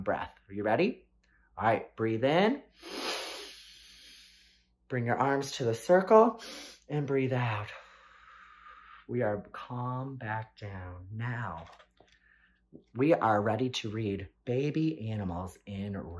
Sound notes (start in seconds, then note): 2.7 breathes in; 6.4 breathes out